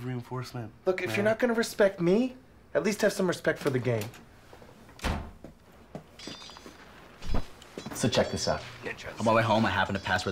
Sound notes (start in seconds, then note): 3.2 door Opens; 4.9 door Closes; 6.2 swords Clanging